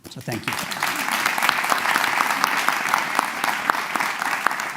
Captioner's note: applause